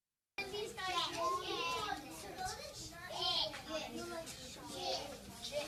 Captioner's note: children imitating letter sounds